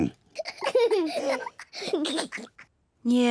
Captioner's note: both laugh